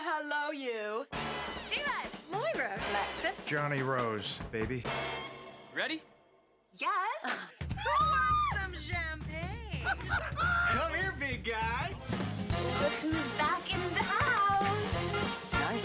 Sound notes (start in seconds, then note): 7.7 woman screams; 9.7 laughing